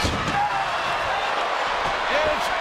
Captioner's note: crowd roars